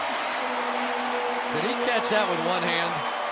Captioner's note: crowd cheering